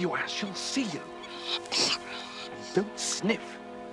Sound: nasal sounds

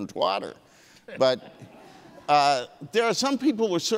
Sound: audience laughing

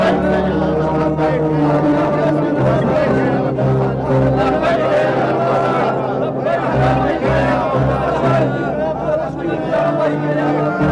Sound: crowd chants

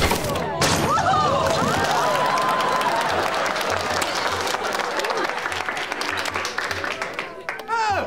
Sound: applause

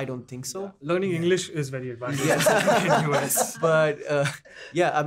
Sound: laughs

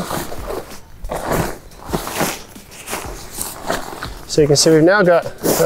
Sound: tent rustling

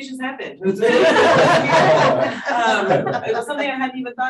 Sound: audience laughing

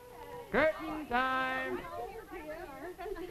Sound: Weskit, sing song voice; women chatter excitedly

